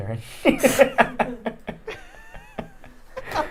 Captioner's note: laughing